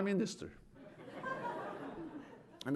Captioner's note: laughter